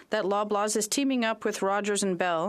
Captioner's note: speaking French